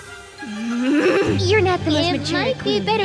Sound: Lady Diva grunts

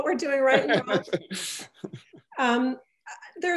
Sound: laugh

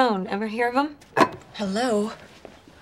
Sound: clunk

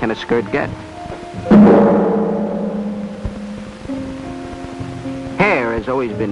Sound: gong sound

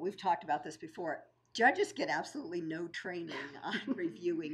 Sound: laughing

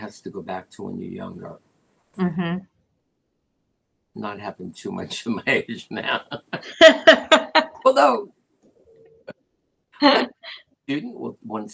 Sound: laughter

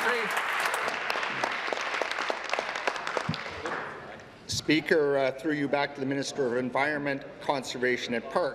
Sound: applause

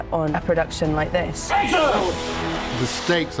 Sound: screaming

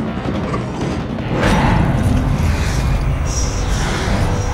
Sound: rumbling sound as rocks rise

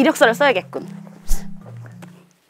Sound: swoosh

